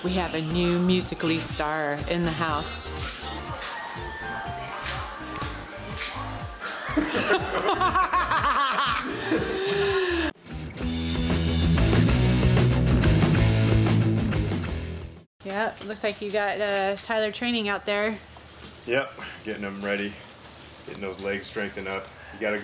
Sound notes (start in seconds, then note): 6.5 laughs; 10.3 rock music